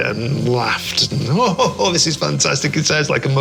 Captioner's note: laughing